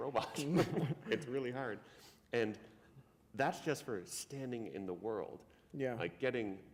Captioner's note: laughter